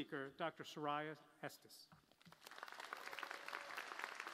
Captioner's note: applause